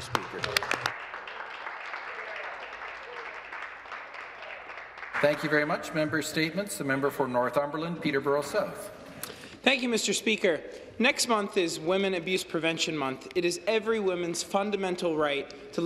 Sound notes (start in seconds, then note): 3.8 some Applause